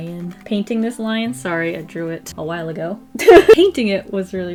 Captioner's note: laughs